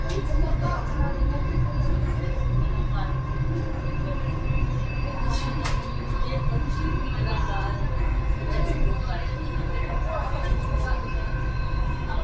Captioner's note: People chattering